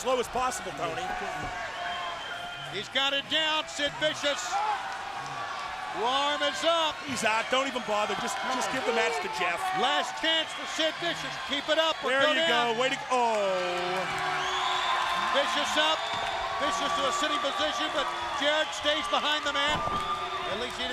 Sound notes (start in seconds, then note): 14.0 crowd cheering